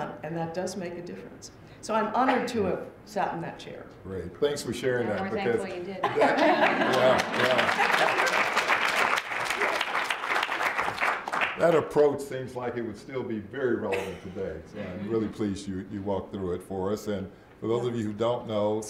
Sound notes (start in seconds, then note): 6.0 laughter; 6.6 applause